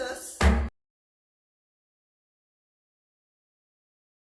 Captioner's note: gavel bangs